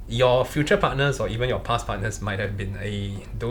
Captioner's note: none